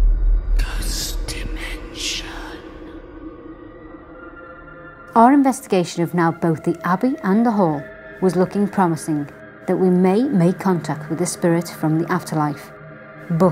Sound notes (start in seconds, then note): 1.1 ghostly Voice; 4.4 eerie music